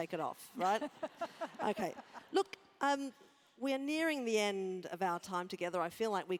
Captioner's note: laugh